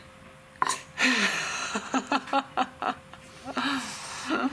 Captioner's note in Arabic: يضحك